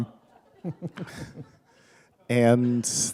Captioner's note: chuckle